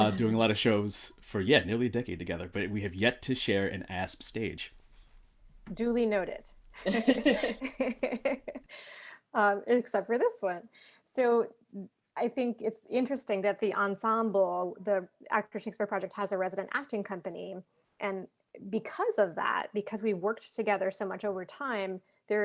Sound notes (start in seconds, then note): 6.8 laughing